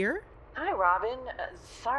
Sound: we hear driving sounds on her end

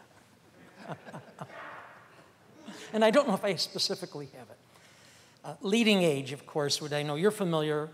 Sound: laughter

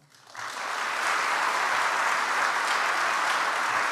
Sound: audience applauds

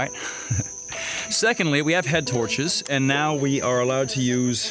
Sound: laughing

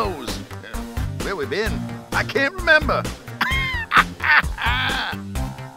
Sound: laughs

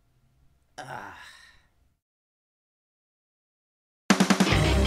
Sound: sigh

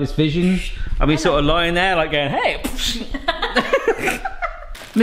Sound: both laughing; low exploding

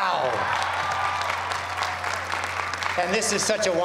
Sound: cheers and applause

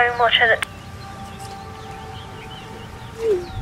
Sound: phone cuts off

